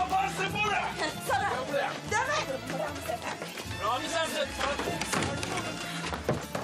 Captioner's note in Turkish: Bağrışmalar